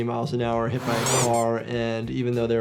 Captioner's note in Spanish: sonido de coche y chirrido